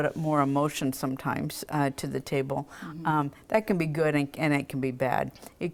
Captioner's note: none